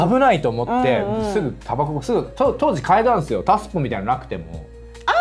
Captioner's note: laughs